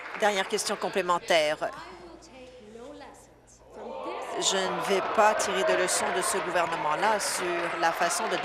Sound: applause

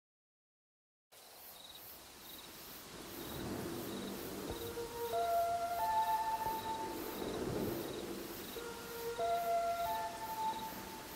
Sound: sound of siren

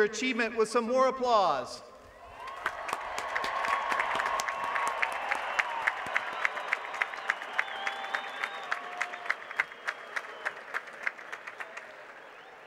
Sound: applause

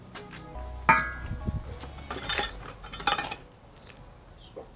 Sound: clanking

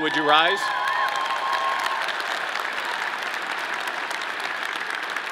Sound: audience applauding

